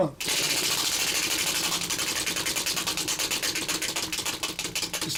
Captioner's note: wheel spinning